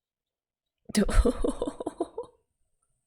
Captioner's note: laughs